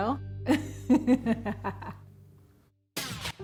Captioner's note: laughs